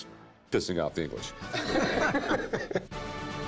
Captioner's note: laughter